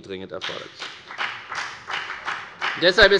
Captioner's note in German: Beifall bei der FDP